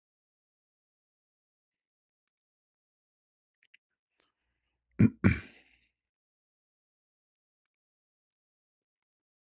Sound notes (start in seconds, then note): 5.0 berdehem